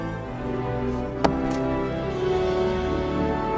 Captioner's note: ax chopping